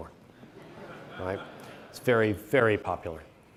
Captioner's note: audience chuckles